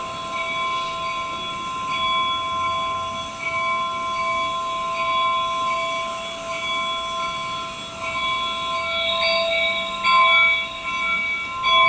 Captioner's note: train noises